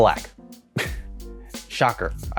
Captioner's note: giggling